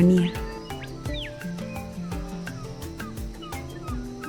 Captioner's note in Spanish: pájaros trinando